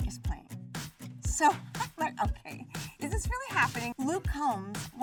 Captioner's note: laughing